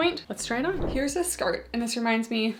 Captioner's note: screen whooshing